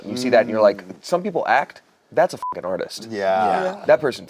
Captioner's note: beep